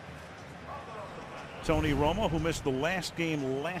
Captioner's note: pa announcement